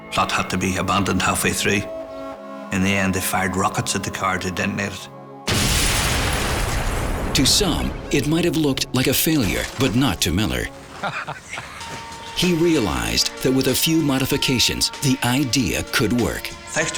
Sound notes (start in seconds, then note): 5.4 explosion booms; 10.7 men laughing